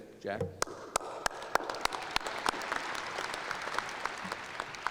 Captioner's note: applause